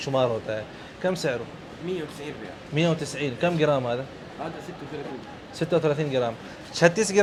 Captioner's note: talking in Arabic